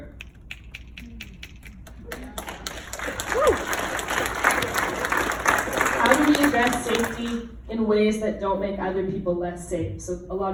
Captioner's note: applause